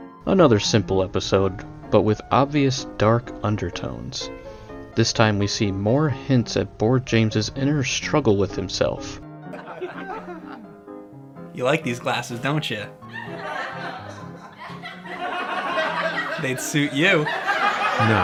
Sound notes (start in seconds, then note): 9.4 canned sitcom audience laughter; 14.6 canned sitcom audience laughter